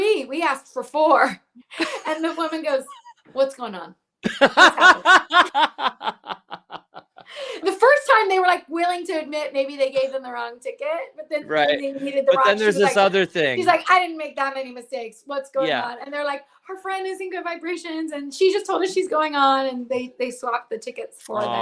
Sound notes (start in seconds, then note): 1.5 laughs; 4.2 laughs